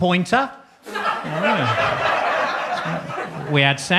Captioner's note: audience laughs